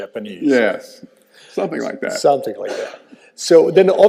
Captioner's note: chuckling